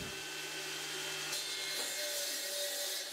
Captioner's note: loud whirring